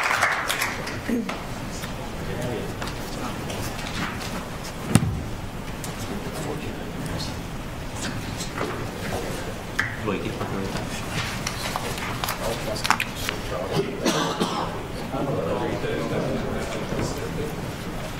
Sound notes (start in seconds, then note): 2.0 background chatter